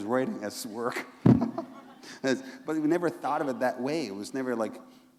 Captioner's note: laughter